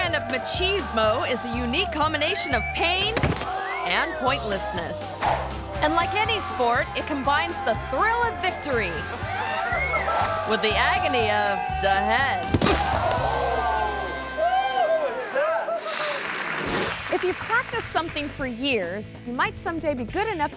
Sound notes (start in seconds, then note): 2.8 body thumps; 8.9 people shouting; 12.3 body thumps; 13.1 people exclaim; 15.7 audience claps